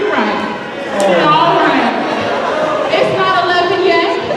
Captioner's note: laughter